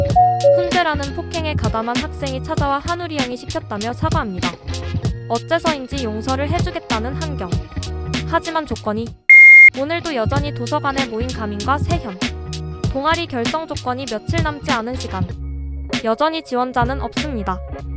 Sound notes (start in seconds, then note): 9.3 beep!!